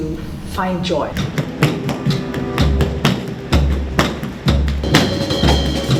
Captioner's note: footfalls, percussion